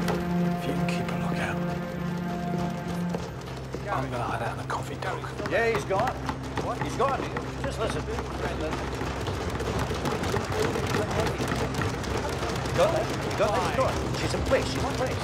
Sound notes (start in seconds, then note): 9.2 banging on desks